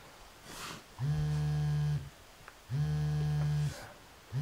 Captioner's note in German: Phone vibrating